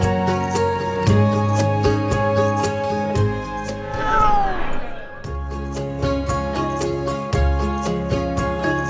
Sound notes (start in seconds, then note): 3.2 cat meows